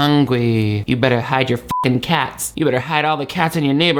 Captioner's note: beep